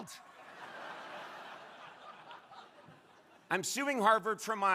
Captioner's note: crowd laughing